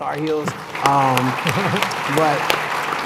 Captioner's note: applause